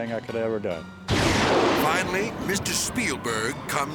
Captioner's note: thunder crashes